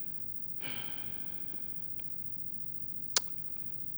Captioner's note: sighs